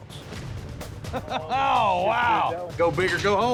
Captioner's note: laughter